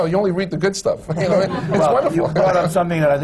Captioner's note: laughter